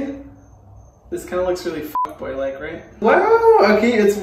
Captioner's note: beep